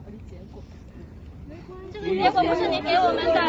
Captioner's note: crowd